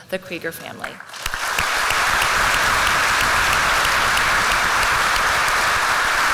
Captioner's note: applause